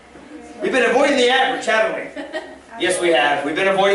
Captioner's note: laughter